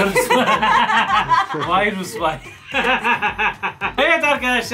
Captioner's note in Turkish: Gülüyorlar